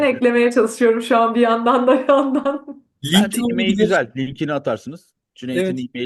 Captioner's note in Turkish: kahkaha